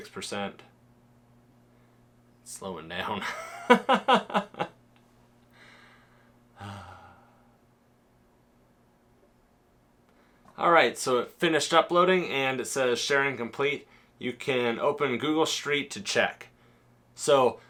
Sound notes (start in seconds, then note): 3.3 laughing; 6.5 sigh